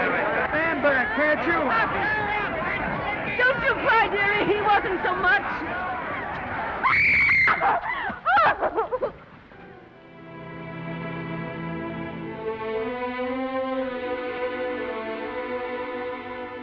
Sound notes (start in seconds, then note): 0.0 reporters chattering; 1.5 reporters chattering; 6.8 Esther screams; 9.5 somber music